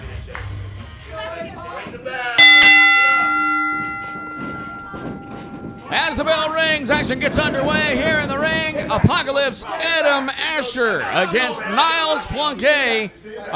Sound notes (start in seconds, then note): 2.4 bell rings